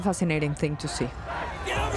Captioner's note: protestors chanting